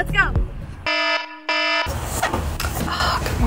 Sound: siren wailing

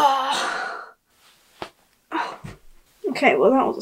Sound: pop

